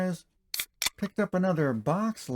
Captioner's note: beer opening sound